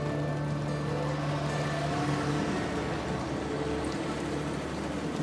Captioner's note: cars whoosh past